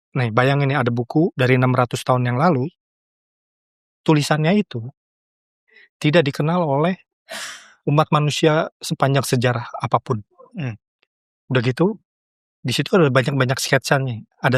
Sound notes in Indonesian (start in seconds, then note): 7.3 terkesiap; 7.3 menghela napas